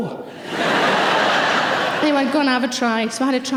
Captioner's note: audience laughing